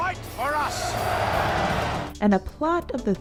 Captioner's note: crowd chears